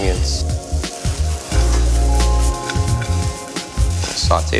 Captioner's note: food sizzling